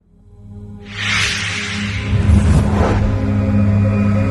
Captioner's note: whooshing sound